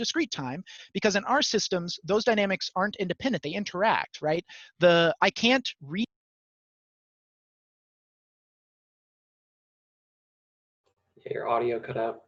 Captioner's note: audio cuts out